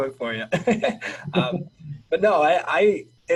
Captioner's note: laughing